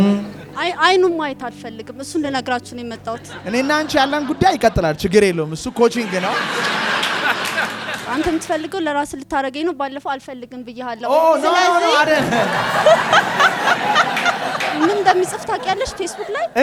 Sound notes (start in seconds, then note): 5.9 laughter; 11.9 laughter